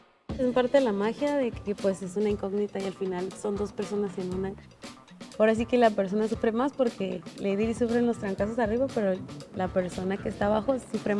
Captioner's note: speaking Spanish